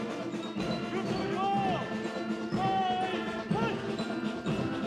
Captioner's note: Le commandant de troupe crie des ordres